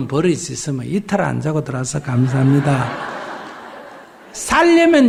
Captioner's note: audience Laughter